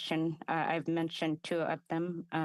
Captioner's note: speaking alternate language